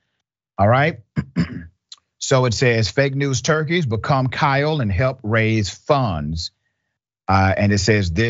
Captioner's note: cough